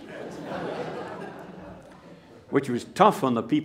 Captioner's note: laughter